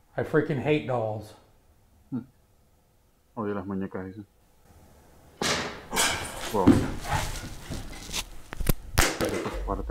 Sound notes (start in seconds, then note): 5.4 loud knock